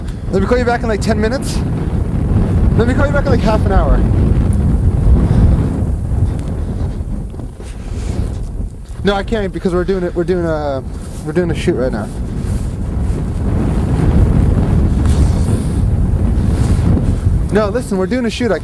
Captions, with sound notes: Let me call you back in like 10 minutes. Let me call you back in like half an hour. (air whooshing) No, I can't because we're doing a shoot right now. (air whooshing) No, listen, we're doing a shoot